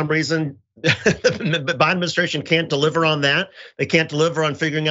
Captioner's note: laugh